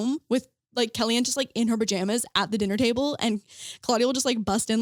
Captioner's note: none